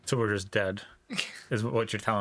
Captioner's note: laughing